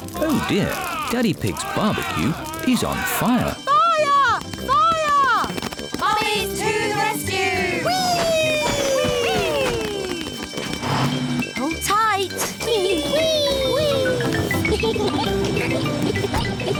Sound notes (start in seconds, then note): 3.5 alarm blares; 15.0 giggling